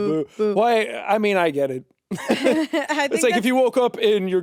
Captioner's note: chuckles